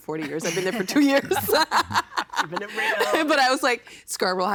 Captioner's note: laughing